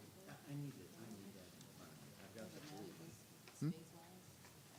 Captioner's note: group chatter